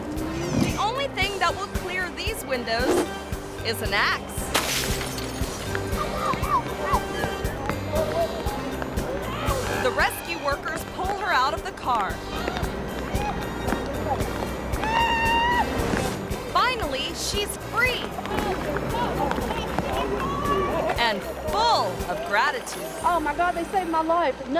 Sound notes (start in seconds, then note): 4.4 glass shatters; 5.9 driver screaming; 5.9 rescuers clamoring; 14.7 driver screaming